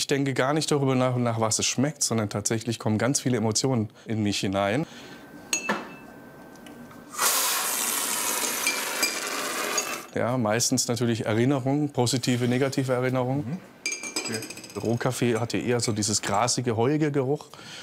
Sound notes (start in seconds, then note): 7.1 slurp